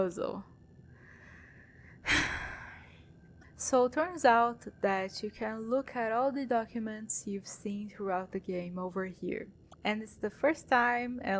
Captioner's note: sigh